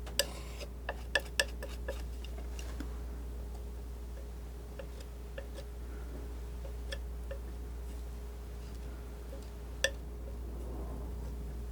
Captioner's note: scratching